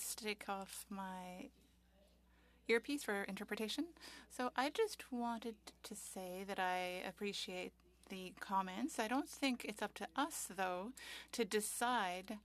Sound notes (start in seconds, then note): 4.7 speaking French